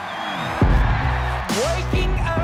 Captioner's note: alegria da multidão